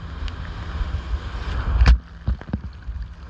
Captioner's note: water hitting camera